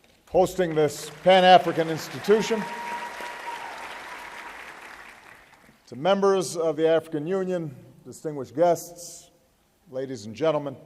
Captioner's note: applause